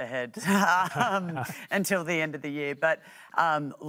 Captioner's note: chuckles